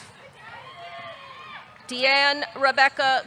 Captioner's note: audience cheering